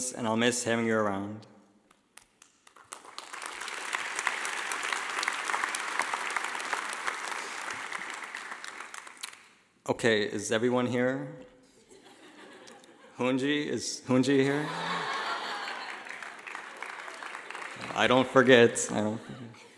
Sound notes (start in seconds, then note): 1.9 clapping; 12.0 laughing; 14.4 laughing